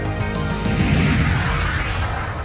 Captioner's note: screen whooshing